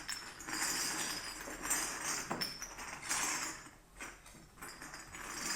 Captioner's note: glass clinking continues